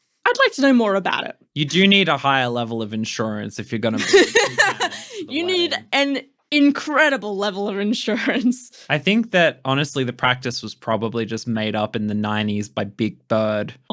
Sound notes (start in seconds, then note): 3.9 laughing